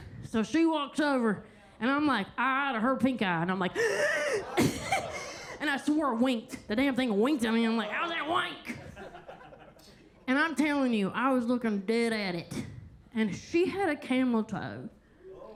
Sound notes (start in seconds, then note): 4.2 sharply inhales; 8.6 attendees laughing